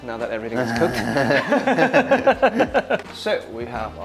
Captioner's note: laughter